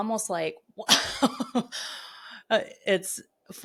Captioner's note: laughs